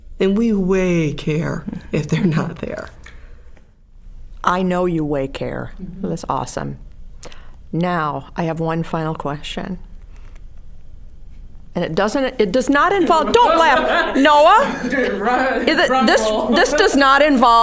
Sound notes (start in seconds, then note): 14.6 all laughing